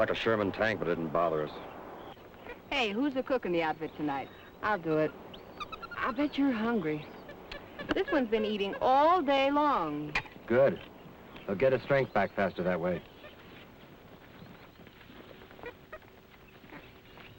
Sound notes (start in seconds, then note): 13.5 Joe chattering